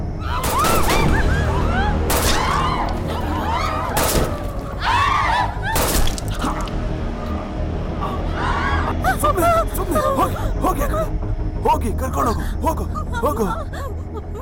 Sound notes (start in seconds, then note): 2.1 gun shot; 3.8 screams; 5.8 gun shot; 8.2 screams